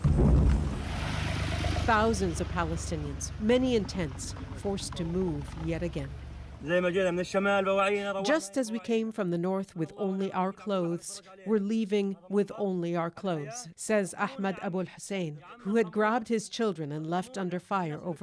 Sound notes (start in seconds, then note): 9.3 speaking alternate language